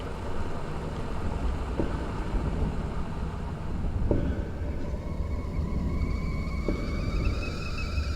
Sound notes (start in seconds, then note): 0.8 distant clanging; 4.4 kettle whistling